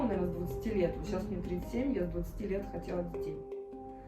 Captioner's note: none